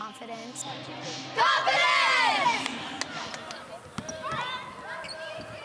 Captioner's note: cheering